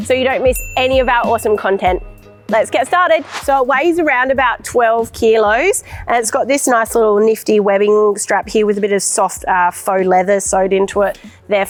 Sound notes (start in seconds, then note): 0.1 bell dinging; 2.9 air swooshing